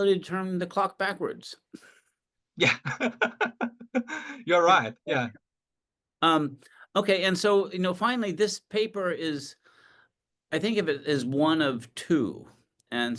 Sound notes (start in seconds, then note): 2.6 laughs